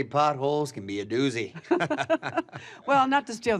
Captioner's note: laugh